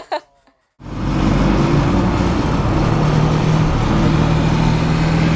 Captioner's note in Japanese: 車の音